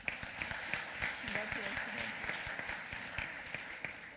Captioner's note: applause